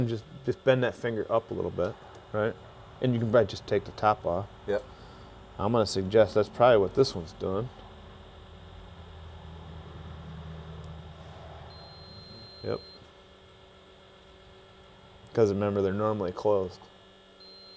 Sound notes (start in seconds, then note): 11.6 machine beeps; 13.6 machine hums